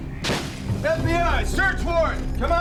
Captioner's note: door breaks; yelling